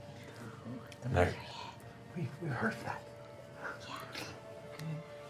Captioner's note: whispering